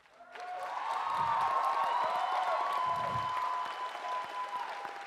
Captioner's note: audience cheers and applauds